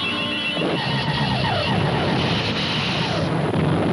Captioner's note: beam firing